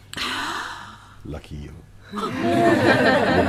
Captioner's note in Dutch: Gelach